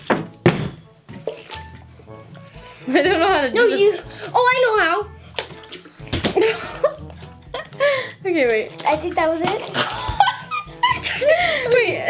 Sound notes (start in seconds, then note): 0.0 bottle landing; 6.0 bottle landing; 9.6 laughing